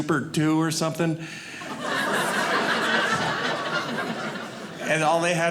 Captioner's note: audience laughing